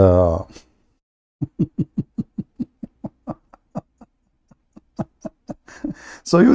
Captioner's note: Ketawa